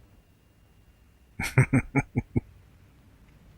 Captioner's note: chuckling